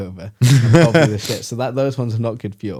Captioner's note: laughs